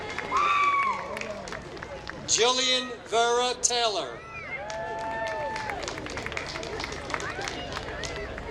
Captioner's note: applause; applause